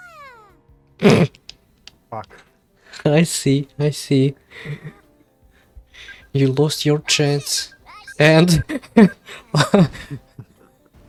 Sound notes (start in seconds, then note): 1.0 grunting laugh